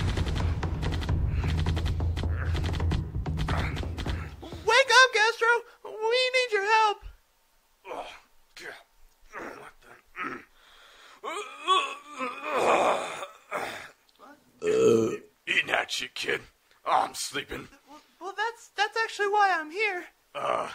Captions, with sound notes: Wake up, Gastro, we need your help! Oh.. *groans* *yawn* *groan* *burp* Eat gnat shit, kid. I'm sleeping. Well that's... that's actually why I'm here.